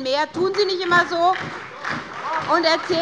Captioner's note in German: Beifall bei der SPD